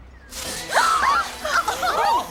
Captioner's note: girls laughing; girls yelping